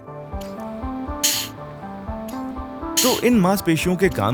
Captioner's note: air hissing